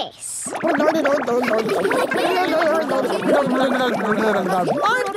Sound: children laughing

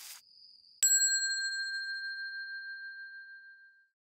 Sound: bell dinging

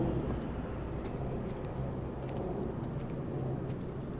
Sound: feet clunking

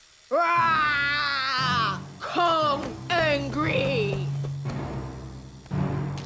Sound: growls

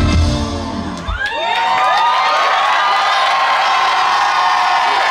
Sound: crowd cheers and applauds

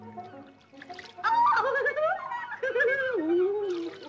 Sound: giggles

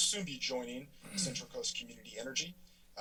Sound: throat cracks

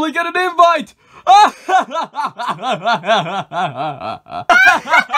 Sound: more laughter

